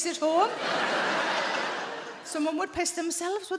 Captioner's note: audience laughing